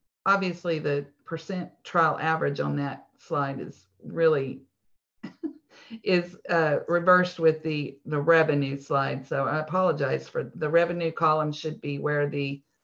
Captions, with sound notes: Obviously the percent trial average on that slide is really (laughs). Is reversed with the the revenue slide. So I apologize for it. The revenue column should be where the